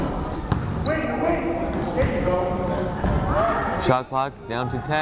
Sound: fan shouting

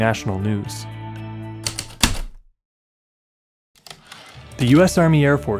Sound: typewriter keystrokes, return slide

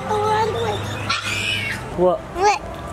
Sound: squeals

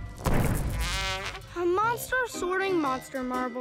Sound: squawks

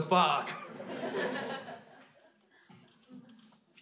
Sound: crowd laughs

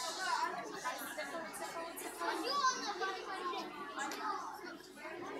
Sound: kids chattering

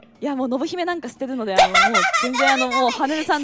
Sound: laughing

